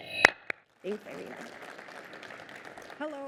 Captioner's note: applause